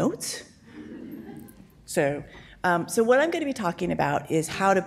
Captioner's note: audience laughs